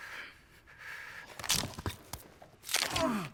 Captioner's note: breathing heavily; man granting